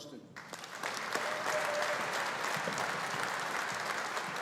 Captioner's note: audience applauding